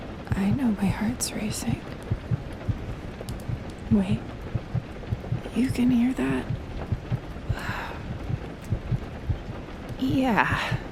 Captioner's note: ba-thump ba-thump ba-thump